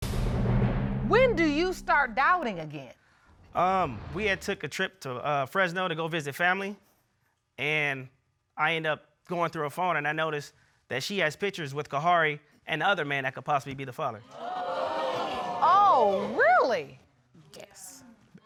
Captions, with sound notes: When did you start doubting again? Um, we had took a trip to, uh, Fresno to go visit family. And I end up going through her phone and I notice that she has pictures with Kaharie and the other man that could possibly be the father. -[audience gasps] -Oh, really? Yes.